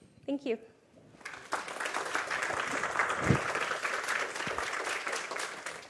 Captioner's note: applause